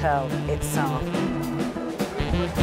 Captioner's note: jazz music; crowd applauding